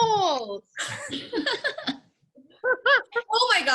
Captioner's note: all laugh